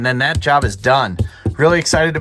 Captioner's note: tapping gas tank